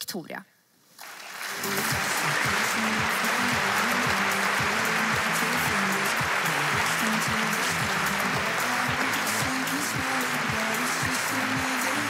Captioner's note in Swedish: Applåder